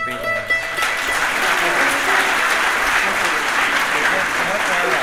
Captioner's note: audience cheering and clapping